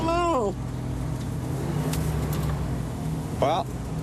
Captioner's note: engine revs